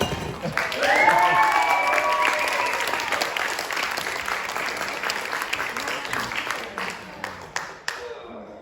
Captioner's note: applause